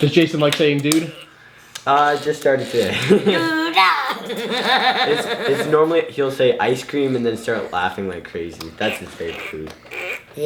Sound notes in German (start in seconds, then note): 2.8 lacht